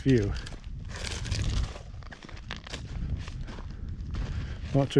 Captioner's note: gravel crunching